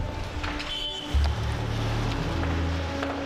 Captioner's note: horn honks